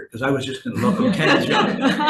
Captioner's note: all laughing